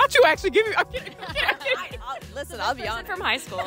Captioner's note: laughs